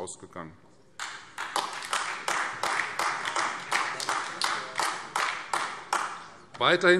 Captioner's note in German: Beifall Freie Demokraten und AfD